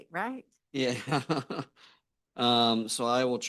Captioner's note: laughs